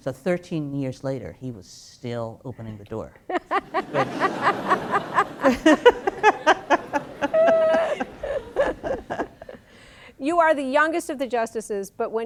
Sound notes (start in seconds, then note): 3.3 laughter; 5.2 laugh